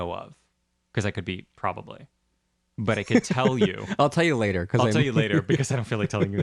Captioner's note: laugh